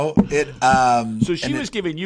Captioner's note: laugh